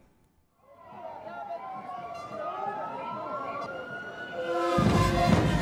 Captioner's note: commotion and sirens